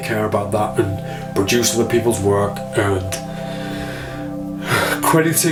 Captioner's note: exhales